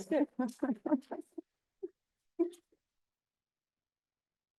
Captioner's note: laughing